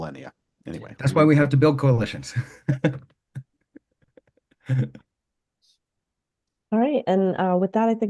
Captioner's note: laughing